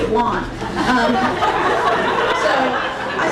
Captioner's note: crowd laughing